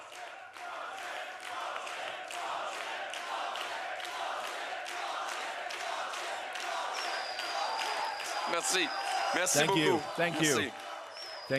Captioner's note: cheering and Applause; chanting